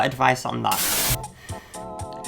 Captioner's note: screen buzzes; keyboard music